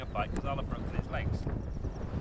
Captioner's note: frustrated sarcasm